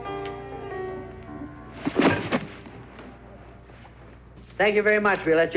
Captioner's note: thud